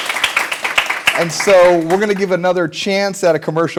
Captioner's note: applause